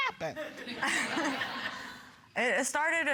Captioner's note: audience, chuckle